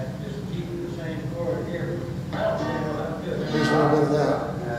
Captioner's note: man speaking faintly on audio recording